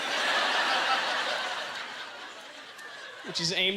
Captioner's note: audience laughter